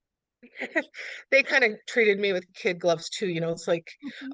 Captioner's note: laughs